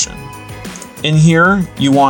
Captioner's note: mouse click